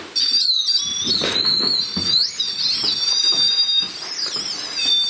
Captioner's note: high-pitched squealing